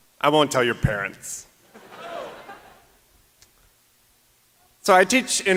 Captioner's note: laughter